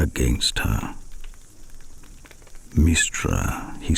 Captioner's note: fire crackling and night insects buzzing